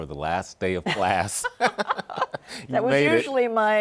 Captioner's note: laughs